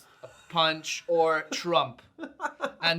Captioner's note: laughs